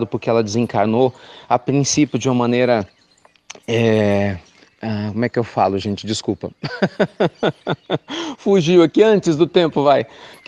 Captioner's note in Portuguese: Risos